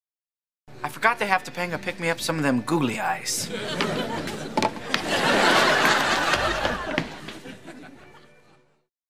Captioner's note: canned laughter